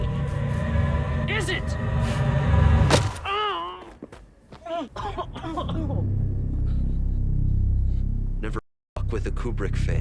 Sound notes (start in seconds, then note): 4.6 coughs